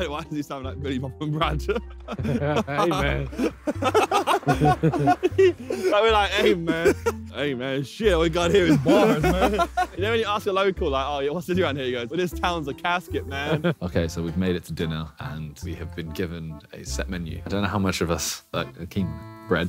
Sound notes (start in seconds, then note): 1.6 laughing; 4.0 all laughing